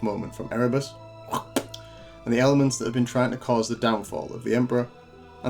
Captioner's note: spitting sound